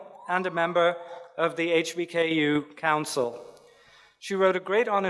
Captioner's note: none